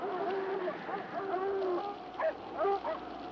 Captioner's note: dogs barking